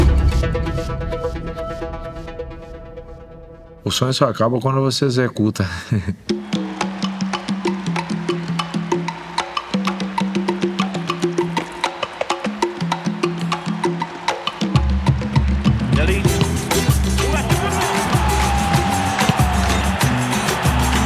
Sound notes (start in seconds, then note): 5.7 chuckles; 18.1 crowd cheering